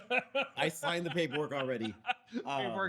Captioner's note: laughs